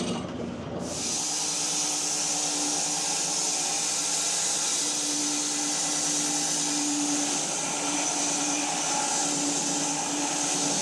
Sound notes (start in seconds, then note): 0.8 saw whirring